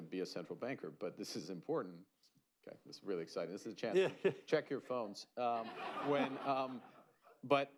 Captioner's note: laughter